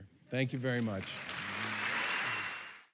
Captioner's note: applause and cheering